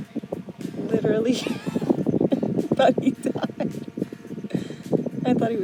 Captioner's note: laughing